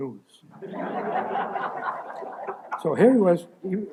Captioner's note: laughter